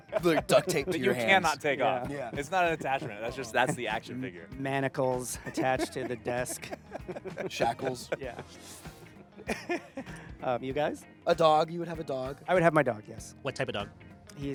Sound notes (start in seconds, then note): 0.0 laughing; 5.3 laughing